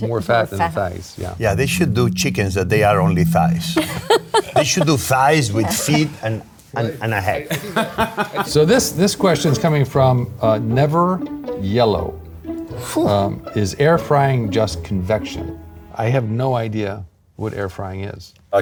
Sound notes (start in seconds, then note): 3.7 laughing; 7.5 laughing